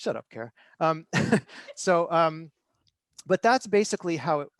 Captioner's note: laughter